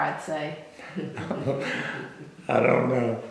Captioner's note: laughter